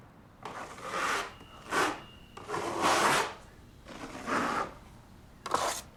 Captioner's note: paint scraping